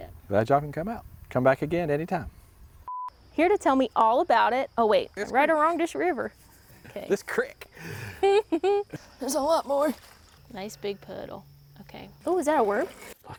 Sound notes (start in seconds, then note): 5.1 southern accent; 7.9 laughter